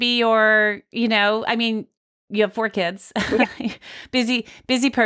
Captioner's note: laughs